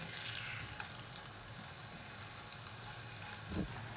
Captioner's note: pan sizzling